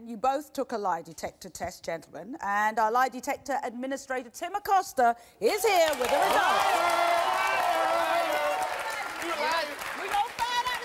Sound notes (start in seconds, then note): 7.4 cheers